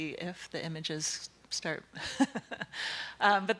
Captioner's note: laughing